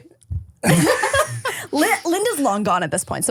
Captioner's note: everybody laughs